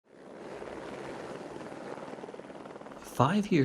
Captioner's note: helicopter sound